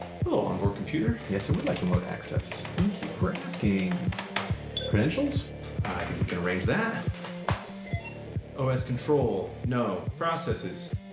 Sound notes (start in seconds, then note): 4.7 access chime; 7.7 access chime